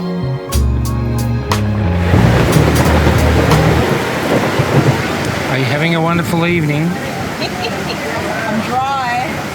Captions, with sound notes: (thunderclap) Are you having a wonderful evening? I'm dry!